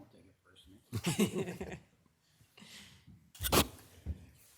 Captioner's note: people laughing